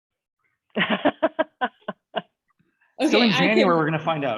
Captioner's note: laughs happily